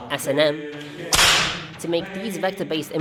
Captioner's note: whip crack